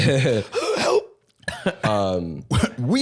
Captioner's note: wheezing